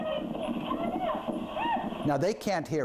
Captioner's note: shouts